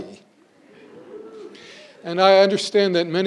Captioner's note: crowd wooing